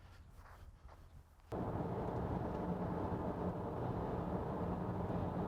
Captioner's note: car engine humming